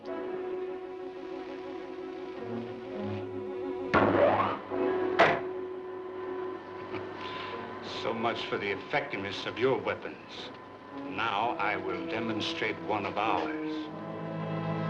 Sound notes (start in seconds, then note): 0.3 dramatic music; 6.8 chuckling; 14.6 dramatic music